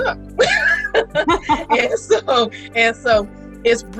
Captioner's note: laughs